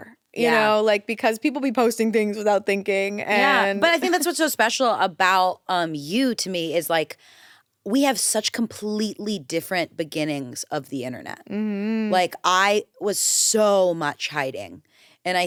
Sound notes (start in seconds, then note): none